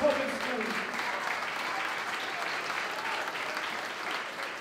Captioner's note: applause